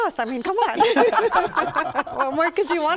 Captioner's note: laughter